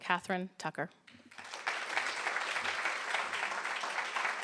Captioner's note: applause